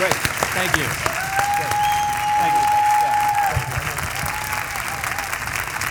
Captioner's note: crowd cheering and applauding